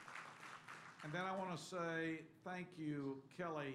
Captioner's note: applause